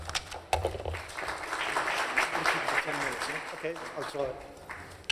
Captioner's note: applause